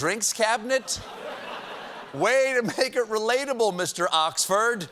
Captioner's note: posh accent